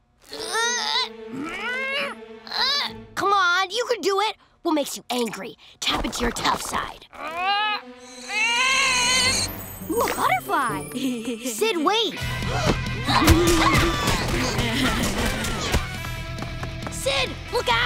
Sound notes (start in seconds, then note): 1.3 grunting; 7.0 grunting; 10.9 giggling; 14.2 giggling, fighting